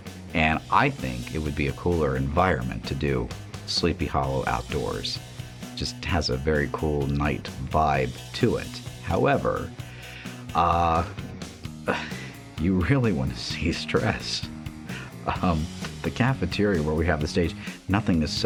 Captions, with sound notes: And I think it would be a cooler environment to do. Sleepy Hollow outdoors. Just has a very cool night vibe to it. However, uh... [uncomfortable laugh] You really want to see stress? The cafeteria where we have the stage, nothing is set up.